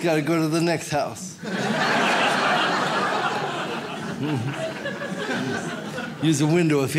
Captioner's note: audience laughs